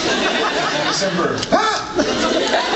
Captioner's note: mock scream